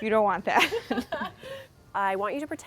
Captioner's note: laughter